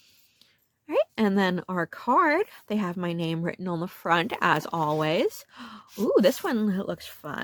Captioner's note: gasp